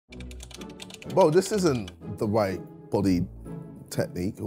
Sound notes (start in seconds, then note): 0.1 keyboard clicking